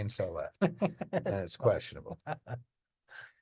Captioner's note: cohost laughing